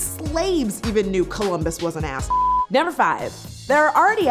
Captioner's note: beep